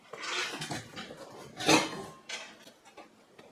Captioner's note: clank